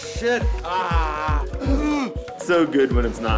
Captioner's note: groaning